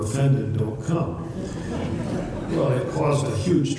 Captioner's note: laughter